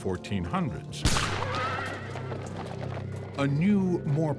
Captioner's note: gunshot, horse neighs